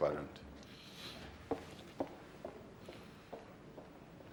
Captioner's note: footsteps